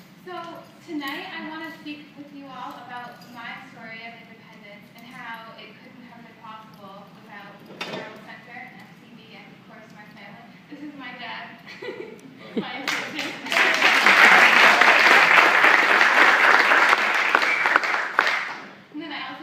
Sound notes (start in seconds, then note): 12.9 audience applause